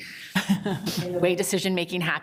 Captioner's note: group laughs